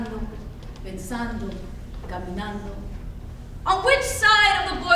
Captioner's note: speaks in foreign language